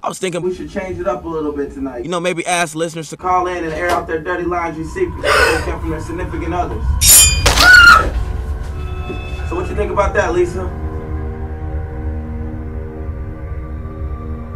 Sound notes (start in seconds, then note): 7.5 Lisa shrieks